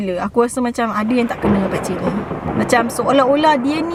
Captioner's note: subtle thunder sound effect